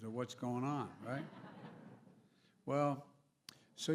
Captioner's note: laughter